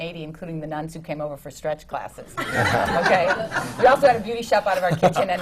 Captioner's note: laughter